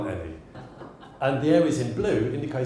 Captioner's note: audience laughs